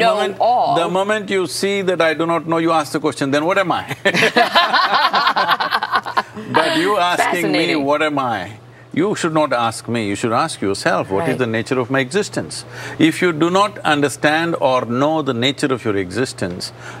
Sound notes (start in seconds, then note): 3.9 laughter